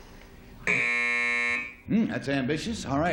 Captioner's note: buzzer